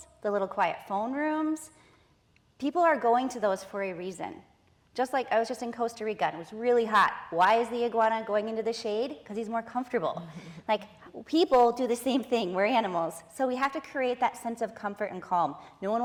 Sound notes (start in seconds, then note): none